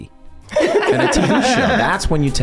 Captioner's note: gang laughing